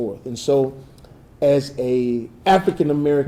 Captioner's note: none